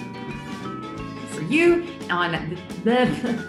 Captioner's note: bright music; speaks gibberish